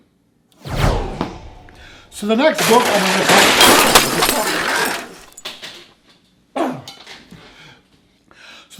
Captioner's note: loud crash and swearing